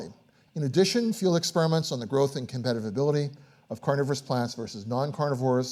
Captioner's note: none